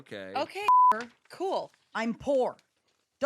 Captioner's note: beep